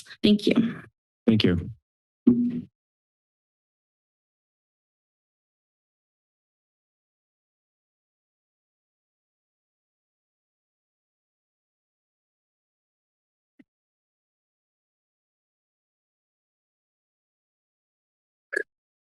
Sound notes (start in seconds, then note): 2.7 silence; 13.8 silence